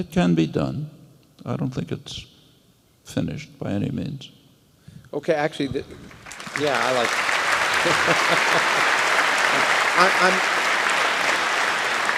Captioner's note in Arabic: تصفيق